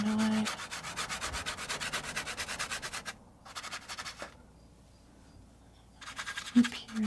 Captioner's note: scratching sounds